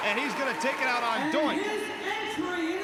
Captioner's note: crowd cheering